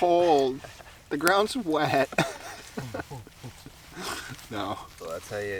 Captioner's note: laughing